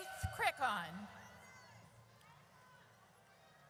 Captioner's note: audience cheers